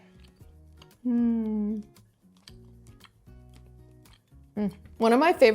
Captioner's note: food crunching